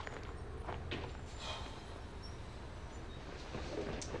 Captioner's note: sighs